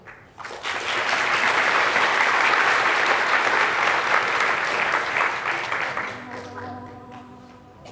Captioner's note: applause